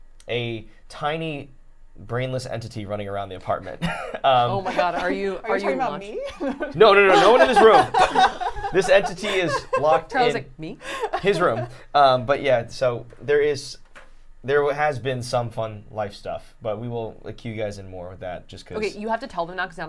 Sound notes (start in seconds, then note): 3.8 chuckling; 6.7 laughing